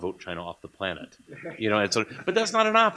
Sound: laughter

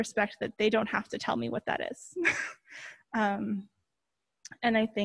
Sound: chuckles

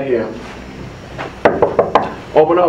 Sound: humming

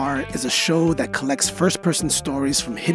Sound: none

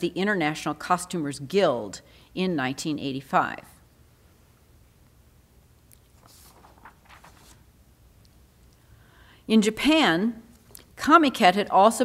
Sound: shuffles pages

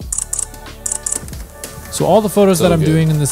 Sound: camera clicking

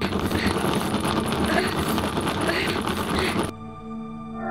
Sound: grinding Metal Sound

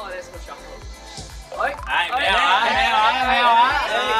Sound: playful

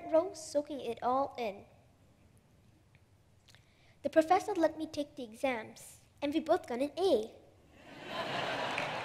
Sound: laughter/applause

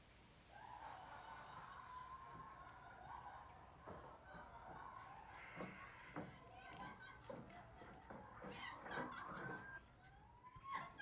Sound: laughing

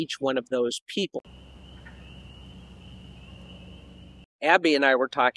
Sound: nature sounds

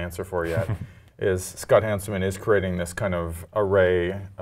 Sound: laugh

